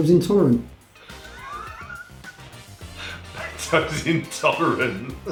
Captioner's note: laughs